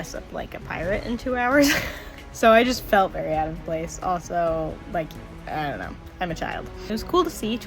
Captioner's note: laugh